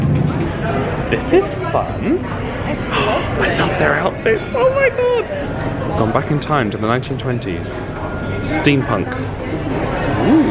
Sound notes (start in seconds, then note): 2.9 gasping